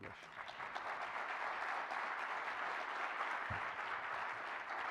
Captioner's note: audience applauding